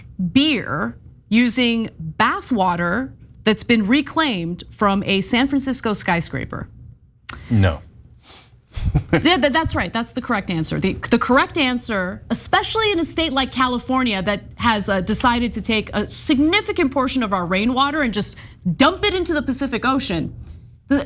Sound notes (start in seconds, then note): 8.8 laugh